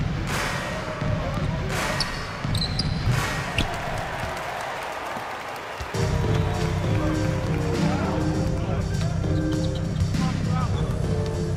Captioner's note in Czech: Potlesk